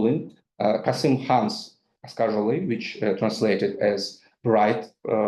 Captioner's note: speaks in foreign language